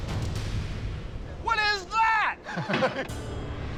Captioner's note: laughs